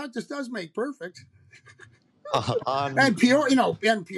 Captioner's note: laughter